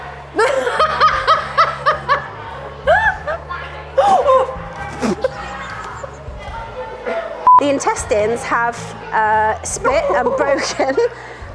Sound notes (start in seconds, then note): 0.3 laughing; 3.7 gags; 3.7 gasps; 5.7 laughing